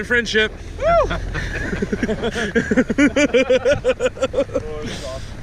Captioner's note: group laughing